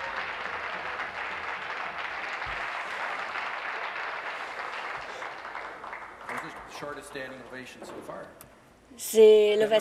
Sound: applause

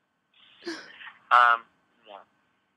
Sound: crying

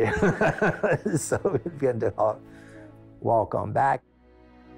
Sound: laughs

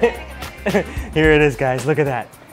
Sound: server laughs; speaks in foreign language

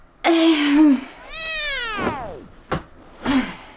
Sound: cat meeowing down

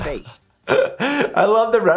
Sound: laughing

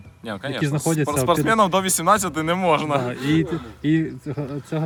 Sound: laughter

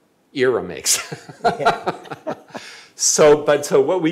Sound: laughs

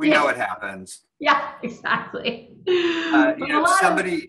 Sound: laughing

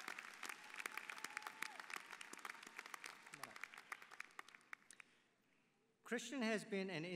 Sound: applause

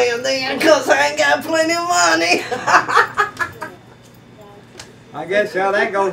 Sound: laughing

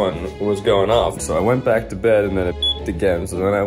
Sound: alarm beeps

